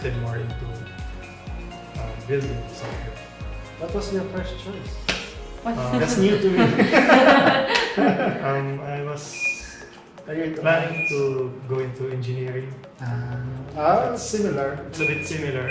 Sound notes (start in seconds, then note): 5.7 laugh